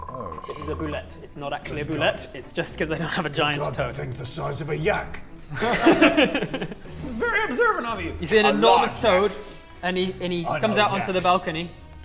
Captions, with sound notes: This is a bulette. It's not actually a bulette, it's just cos I don't have a giant toad Good god, that thing's the size of a yak! *laughter* That's very observant of you! You see an enormous toad, - a large yak and he comes out onto the balcony - I know yaks